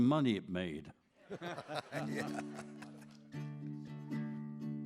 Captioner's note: audience laughs